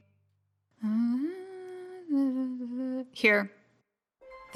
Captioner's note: Glaceon hums